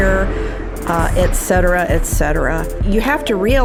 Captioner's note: storm winds blowing